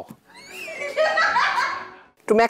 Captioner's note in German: Lachen